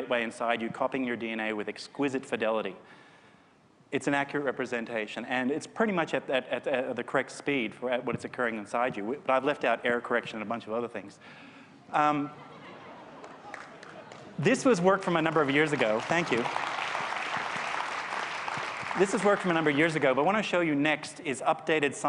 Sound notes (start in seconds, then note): 12.3 laughter; 15.0 applause